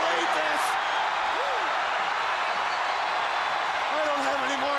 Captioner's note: crowd cheering